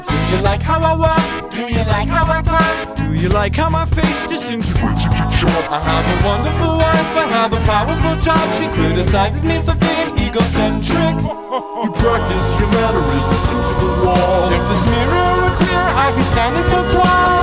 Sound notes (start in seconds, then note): 10.9 ha ha ha